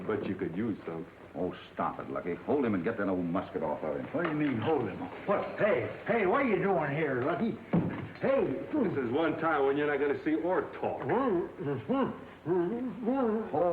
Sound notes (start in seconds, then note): 8.0 gun thuds; 11.2 Windy muttering